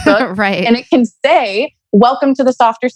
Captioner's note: laughs